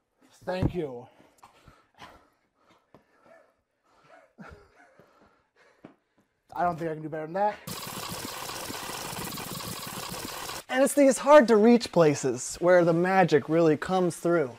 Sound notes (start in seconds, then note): 7.6 fast forward noise